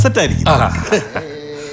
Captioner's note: scoffs